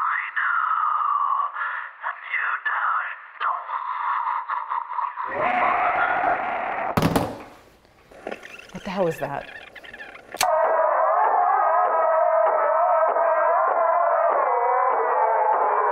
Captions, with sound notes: (person screams) - What the hell was that? (tape squeaking) (distorted voices chant)